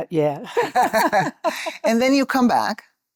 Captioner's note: laughter